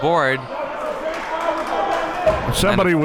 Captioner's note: audience clapping